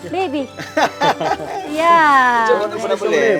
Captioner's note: everyone laughing